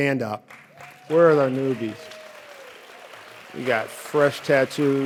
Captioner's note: audience applauds